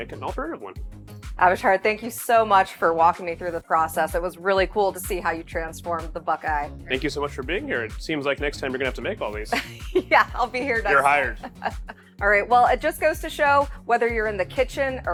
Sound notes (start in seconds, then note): 10.4 laughs